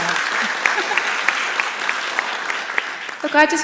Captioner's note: applauds